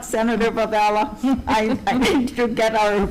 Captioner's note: chuckles